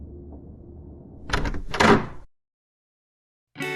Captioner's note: the sound of the door opening